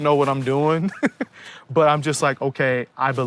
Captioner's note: laughs